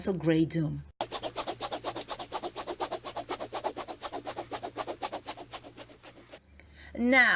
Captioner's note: witch's broom flying